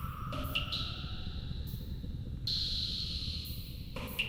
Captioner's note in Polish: Elektroniczne odgłosy kapania